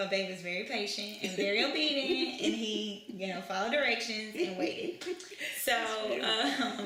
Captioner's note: laughter